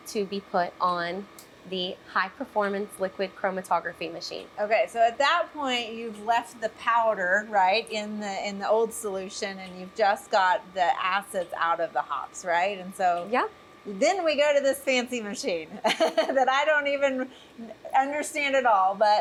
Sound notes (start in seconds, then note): 15.8 laughs